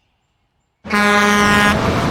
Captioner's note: horn blaring